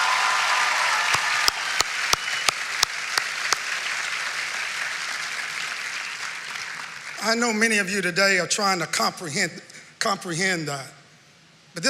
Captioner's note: cheering and applse